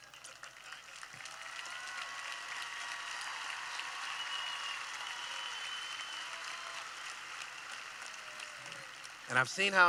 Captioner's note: cheering